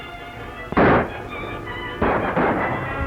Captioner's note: gunshot; gunshots